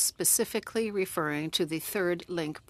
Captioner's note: speaking French